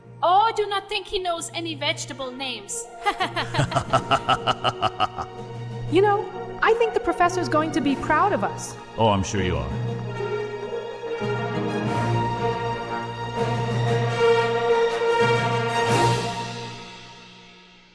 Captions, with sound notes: Oh, I do not think he knows any vegetable names. (Laughter) You know, I think the professor's going to be proud of us. Oh, I'm sure you are. (Epic music)